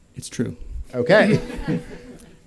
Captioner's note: laughter